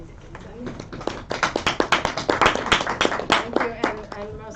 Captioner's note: applause